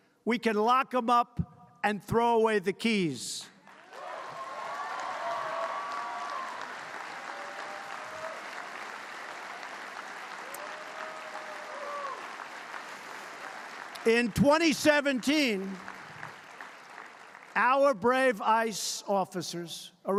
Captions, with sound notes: we can lock them up and throw away the keys. (Applause.) In 2017, our brave ICE officers